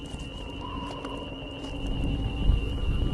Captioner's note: scanners hum